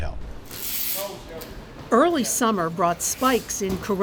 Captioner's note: tape screeches